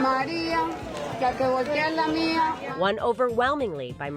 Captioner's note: speaking foreign language